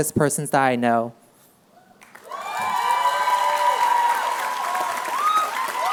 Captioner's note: applause